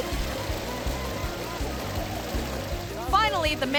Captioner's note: mud spattering continues